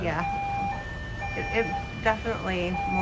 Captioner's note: siren wailing